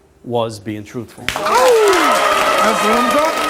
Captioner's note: audience applauds